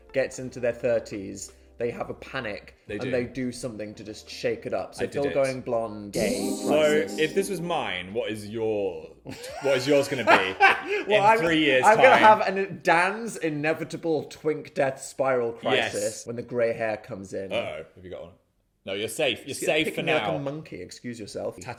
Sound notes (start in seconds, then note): 9.3 laughing